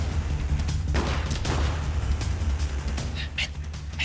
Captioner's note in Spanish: Disparos